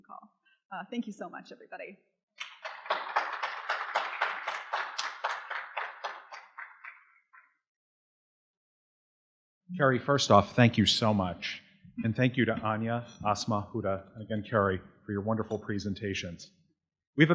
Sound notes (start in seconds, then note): 2.4 audience applauding